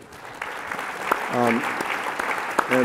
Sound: applause

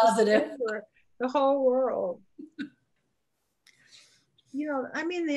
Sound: laughs

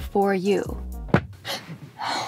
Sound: thud; gasp

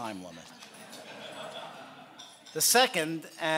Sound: laughing

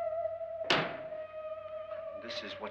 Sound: eerie music; compartment bangs shut

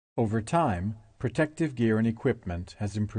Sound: voiceover

